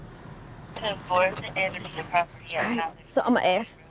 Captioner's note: radio